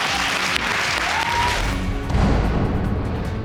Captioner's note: audience applauds and cheers